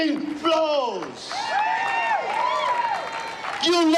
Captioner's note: crowd clapping; crowd cheering